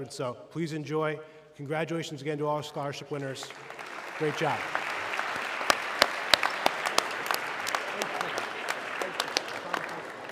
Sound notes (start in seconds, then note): 5.1 audience clapping